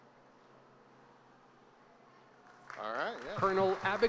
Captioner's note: applause